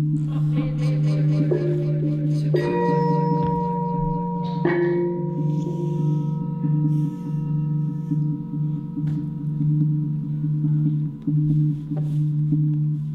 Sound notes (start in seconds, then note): 0.1 "Not made to woo" echoed in a female voice; 4.2 gong sounds return